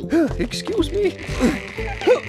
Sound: straining

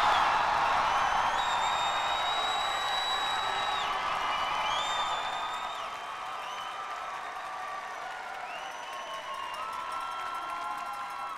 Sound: cheers and applause

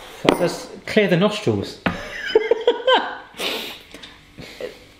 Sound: laughs

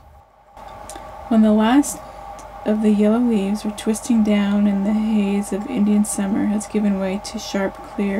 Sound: female voice reading a story

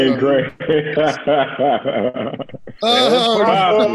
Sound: laughter

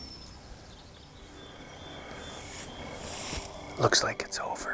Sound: insects chirping

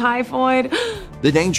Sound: gasps

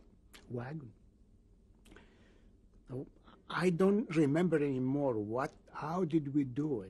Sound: pauses for 3 seconds

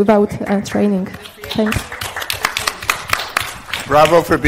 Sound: group applauding

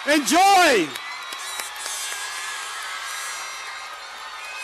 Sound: cheers and applause

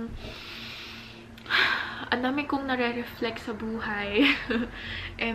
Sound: sighs

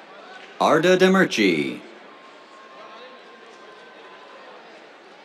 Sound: applause

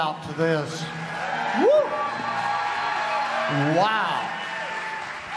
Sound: congregation lauds

